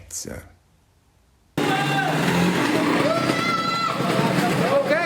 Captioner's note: sound of vehicles passing